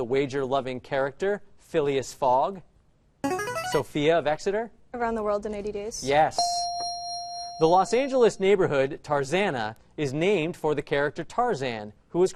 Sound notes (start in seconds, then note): 2.6 answer bell; 6.4 correct answer chime